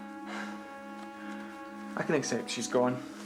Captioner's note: sighs